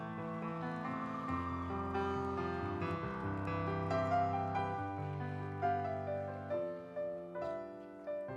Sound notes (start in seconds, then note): 0.0 audience cheering; 0.0 instrumental music